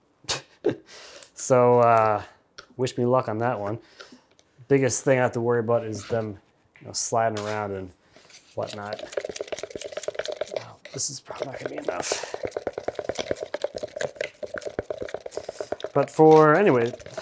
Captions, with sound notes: (chuckles) So wish me luck on that one. Biggest thing I have to worry about is them sliding around and whatnot. (plastic clacks) This is probably not gonna be enough.